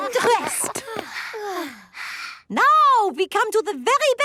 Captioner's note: panting